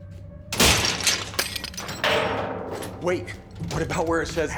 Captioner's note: metal clatters